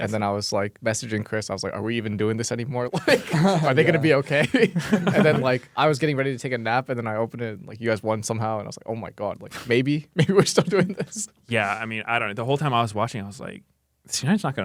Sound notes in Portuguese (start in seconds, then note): 2.9 risos; 10.2 risos